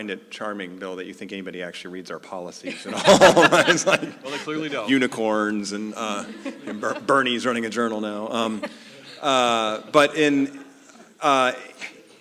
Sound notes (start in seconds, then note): 2.7 laugh